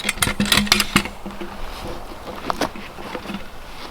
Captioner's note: log tong clanging